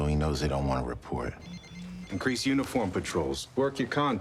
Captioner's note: cellphone ringing